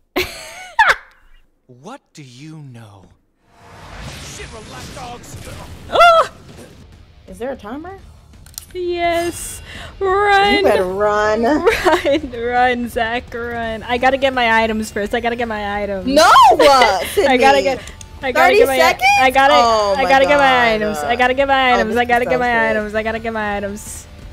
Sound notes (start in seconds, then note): 0.2 laughs; 5.8 xvzniv surprised noise